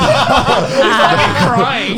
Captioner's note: laughs